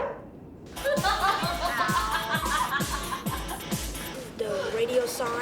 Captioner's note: laughter